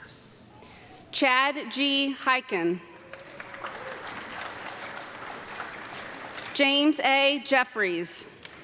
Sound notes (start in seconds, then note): 3.0 audience clapping